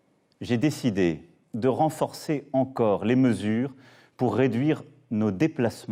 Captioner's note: man speaking a foreign language